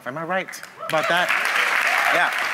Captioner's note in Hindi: वाहवाही